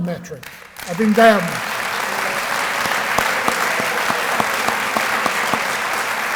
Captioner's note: applause